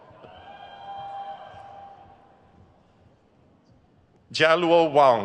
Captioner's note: crowd cheers